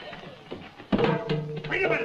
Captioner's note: tray clatters